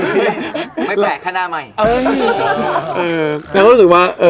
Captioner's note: laugh